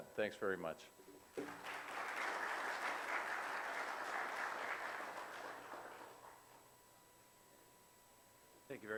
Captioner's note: audience applause